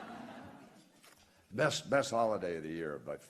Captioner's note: laughter